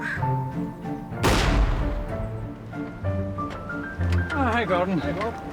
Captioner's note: gas gun fires